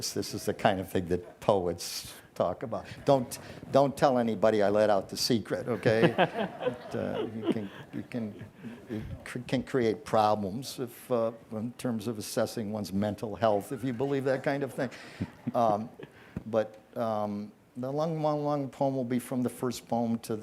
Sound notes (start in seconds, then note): 5.7 audience laughs